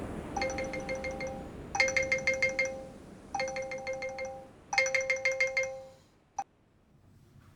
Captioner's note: phone alarm ringing